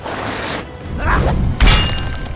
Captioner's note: noise Link makes when he swings the Master Sword; chink